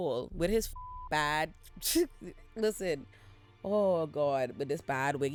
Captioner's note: beep